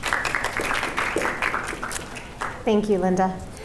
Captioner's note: audience applauds